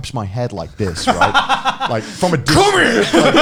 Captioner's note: Garnt laughing